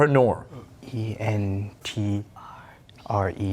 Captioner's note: whispering